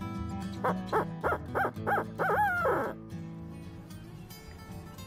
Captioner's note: turkey call yelps